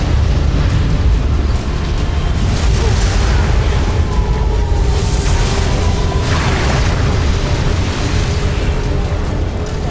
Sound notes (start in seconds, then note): 0.0 intense music playing; 0.2 powerful whoosh-crackle